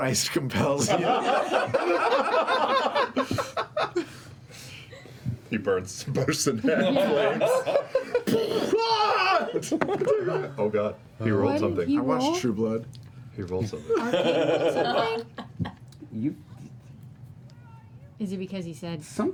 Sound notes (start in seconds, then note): 0.8 laughter; 7.6 yelling